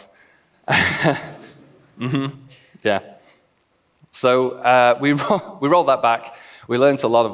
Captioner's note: laughs